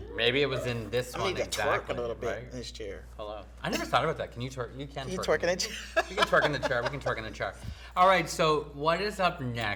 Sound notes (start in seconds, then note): 7.9 laughing